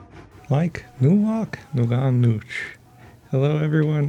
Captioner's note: speaking Ute language